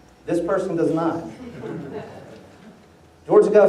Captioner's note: laughter